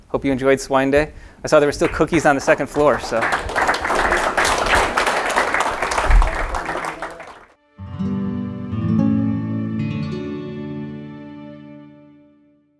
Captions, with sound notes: Hope you enjoyed Swine Day. I saw there were still cookies on the second floor. (audience clapping) (gentle music)